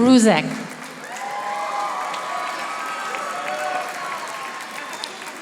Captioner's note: audience applauding